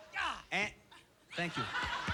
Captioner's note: yelling